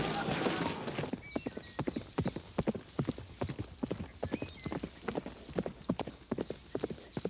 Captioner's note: hooves clop; birds chirp